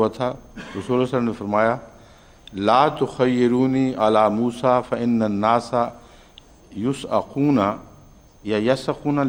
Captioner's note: Arabic